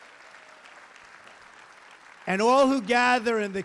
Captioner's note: applause